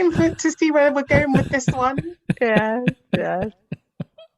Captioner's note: laughs